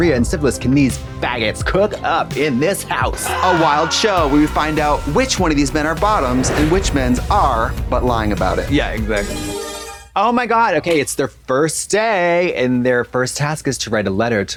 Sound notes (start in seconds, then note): 9.5 bright chime